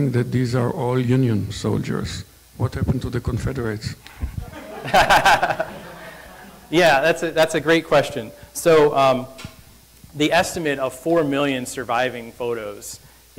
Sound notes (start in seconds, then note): 4.1 presenter laughing; 4.2 audience laughing